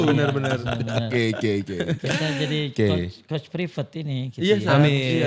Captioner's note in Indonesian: tertawa